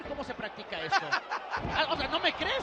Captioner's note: laugh